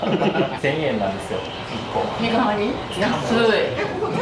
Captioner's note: laughs